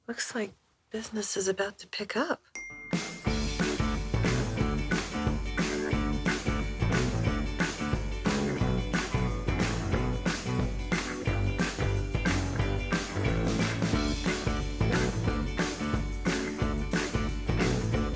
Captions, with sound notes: - Looks like business is about to pick up. (ding)